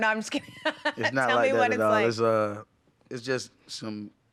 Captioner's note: laughing